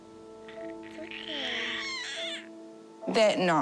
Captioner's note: cries